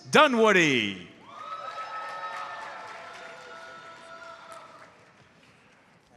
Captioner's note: audience cheers and applauds